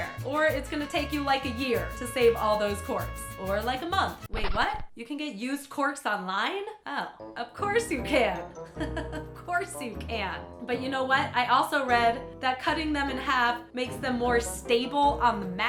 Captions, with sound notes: Or it's going to take you like a year to save all those corks, Or like a month. Wait what? You can get used corks online? Oh, of course you can. (chuckle) Course you can. But you know what, I also read that cutting them in half makes them more stable on mats.